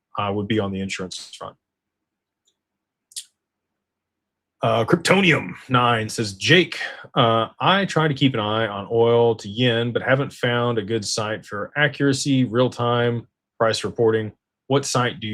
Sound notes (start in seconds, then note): 5.6 clears throat